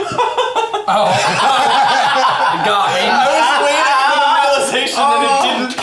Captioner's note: laughing